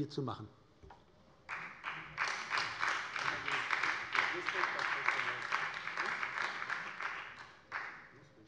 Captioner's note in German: Beifall bei der SPD